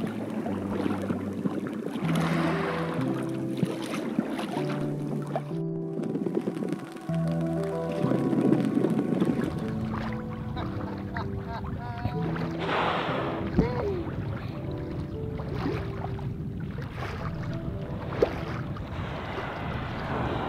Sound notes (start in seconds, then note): 0.1 gentle music; 2.2 water splashing; 10.5 laughing; 12.2 whale blowing